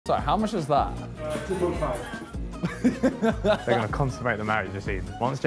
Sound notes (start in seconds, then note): 2.6 laughing